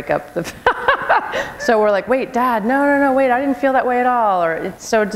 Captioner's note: laughter